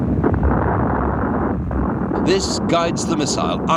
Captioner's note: artillery explode